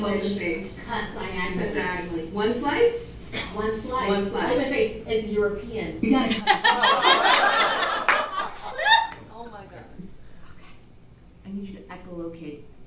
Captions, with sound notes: - Open face. -Cut diagonally. - One slice? - One slice. - One slice. - Open face, it's European. -You gotta cut the crusts off. (whispers) - You're fucking right. - Oh OK Okay, I need you to echo locate.